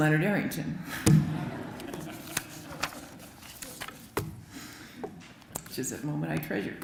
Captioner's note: laughter